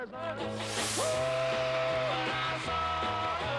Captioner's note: cheers and applause